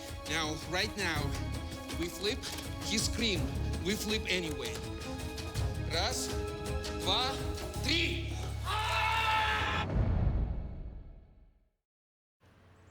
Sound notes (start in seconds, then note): 4.9 counts in russian; 8.6 screams